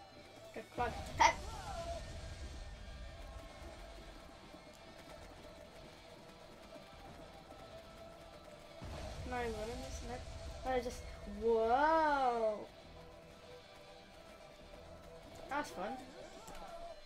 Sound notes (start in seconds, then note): none